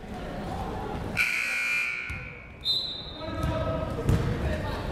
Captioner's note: buzzer blares